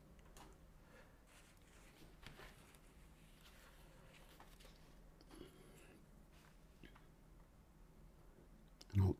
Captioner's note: silence